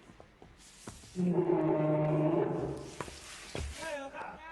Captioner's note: bear roaring